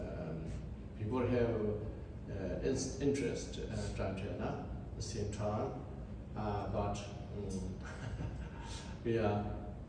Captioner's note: laughs